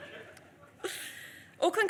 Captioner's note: audience laughs